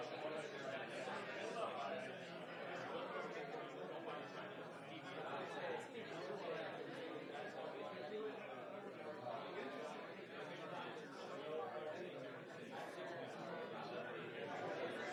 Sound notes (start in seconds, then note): none